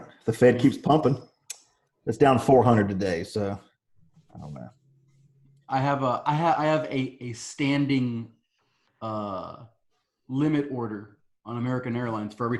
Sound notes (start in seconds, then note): none